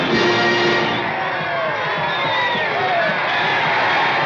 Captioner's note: crowd cheering and exclaiming